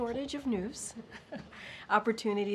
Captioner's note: laughter